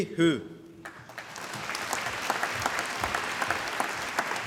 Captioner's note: applause